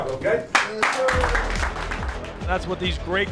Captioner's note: team clapping